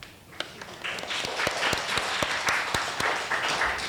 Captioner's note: applause